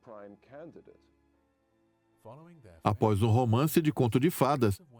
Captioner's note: voiceover